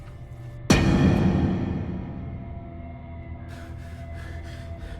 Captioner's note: dramatic bang; Tomas breathing heavily